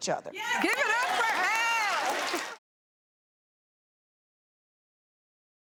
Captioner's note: audience applauding